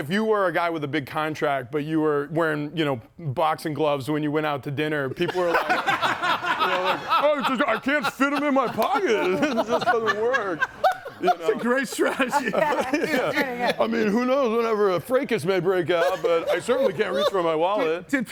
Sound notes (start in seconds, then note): 5.7 group laughs